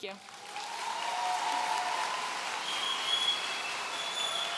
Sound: audience cheering

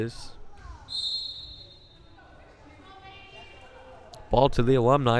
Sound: whistle blowing

